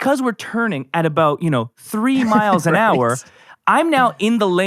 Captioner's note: laughs